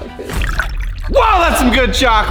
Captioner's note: liquid trickling